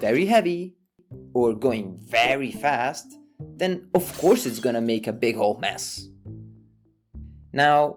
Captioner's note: glass breaking